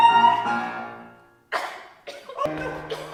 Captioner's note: SILENCE. Virginia coughs